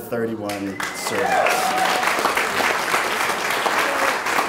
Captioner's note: clapping